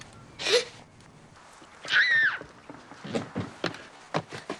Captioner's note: gasps; screaming